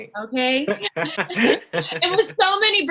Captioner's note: both chuckle